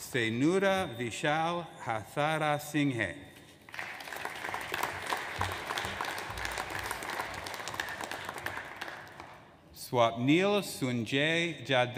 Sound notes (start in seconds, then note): 3.7 audience applauds